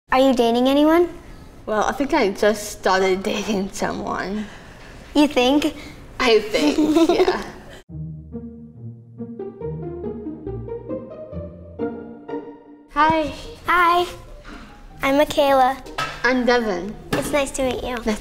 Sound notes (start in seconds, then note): 6.5 giggles; 9.8 lighthearted music